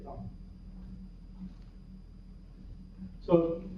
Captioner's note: pause